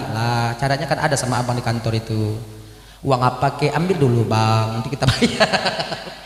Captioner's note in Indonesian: tertawa